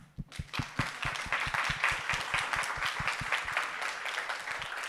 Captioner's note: audience applauding